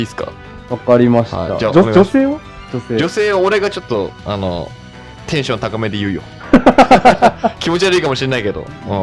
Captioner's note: both laughs